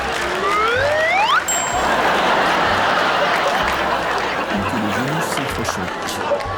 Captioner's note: bell dings and audience laughing